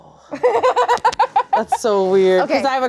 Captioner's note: laughs